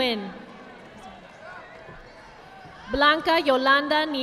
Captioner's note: audience applauding